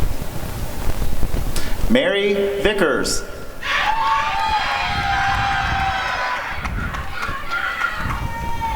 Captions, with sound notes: Mary Vickers [applause and cheering]